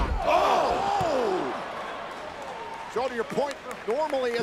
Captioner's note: applause